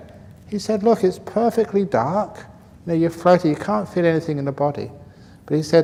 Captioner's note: none